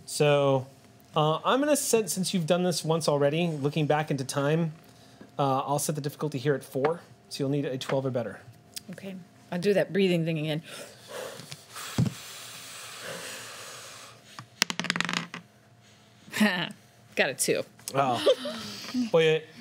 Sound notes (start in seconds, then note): 10.8 inhaling and exhaling; 14.7 clatters; 18.0 laughs